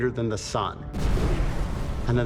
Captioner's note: loud booming